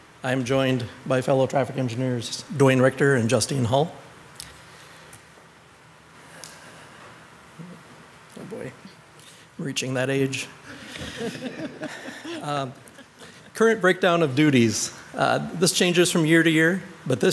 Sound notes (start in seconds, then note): 10.6 all laughing